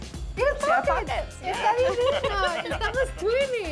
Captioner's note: all speaking Spanish